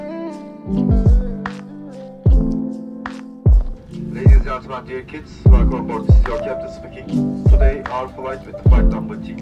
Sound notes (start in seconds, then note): 4.3 announcement from Captain in English and Turkish